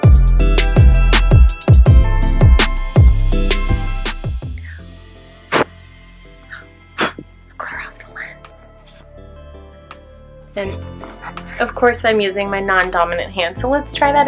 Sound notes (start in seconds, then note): 4.6 whispers "Let's clear off the lens."